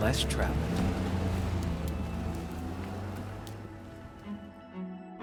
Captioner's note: car engine rumbling; playful adventurous music